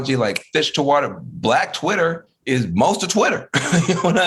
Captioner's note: laughing